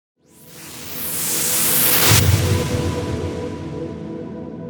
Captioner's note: whooshing